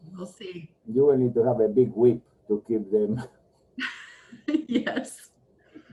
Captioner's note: laughs